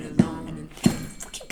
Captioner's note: cough